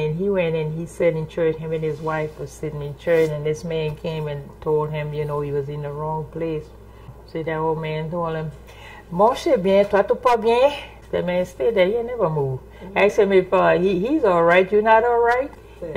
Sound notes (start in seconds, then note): 8.9 French